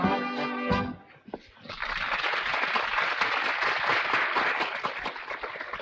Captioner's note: audience applauding